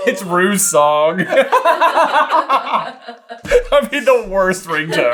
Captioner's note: laughter